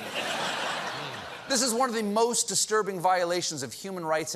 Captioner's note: laughter